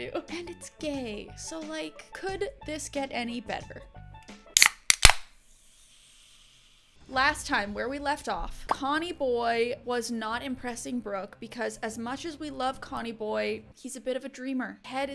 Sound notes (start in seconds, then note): 4.5 can pops